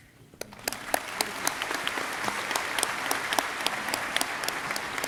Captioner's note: audience clapping